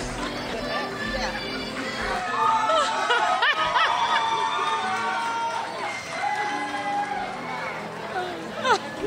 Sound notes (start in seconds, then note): 3.2 crowd cheers